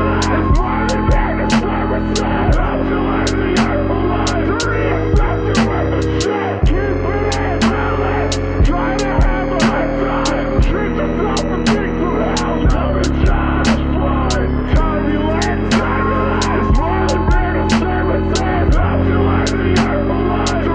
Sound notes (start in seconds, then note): 14.7 turbulence